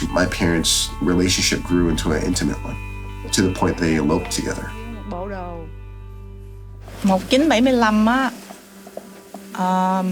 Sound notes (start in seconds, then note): 5.3 speaking in a foreign language